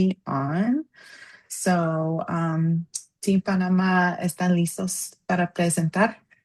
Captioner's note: non-english speech